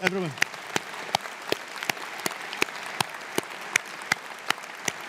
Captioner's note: audience applauding